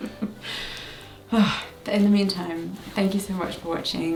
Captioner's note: laughs; sighs